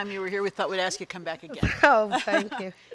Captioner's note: chuckles